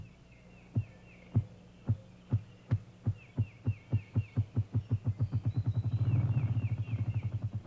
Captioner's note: grouse drumming noise